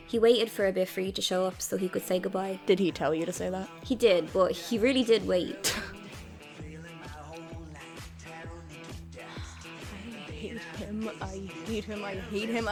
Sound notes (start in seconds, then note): 5.8 scoffs; 10.8 under her breath